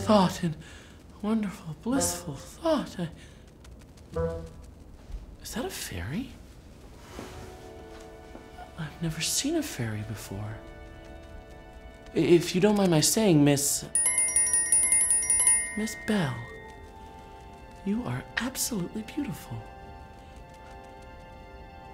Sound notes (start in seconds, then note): 13.9 tink bells